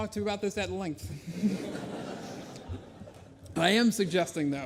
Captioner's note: laughter